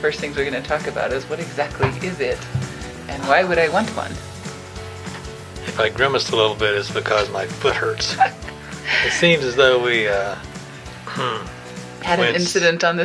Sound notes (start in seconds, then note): 8.0 laughing